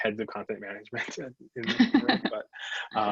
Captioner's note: both laugh